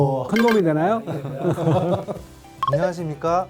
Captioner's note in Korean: 웃음